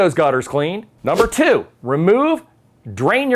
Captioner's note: text whooshes